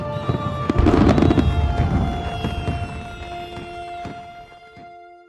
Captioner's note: fireworks exploding